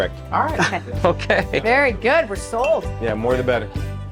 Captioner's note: chuckling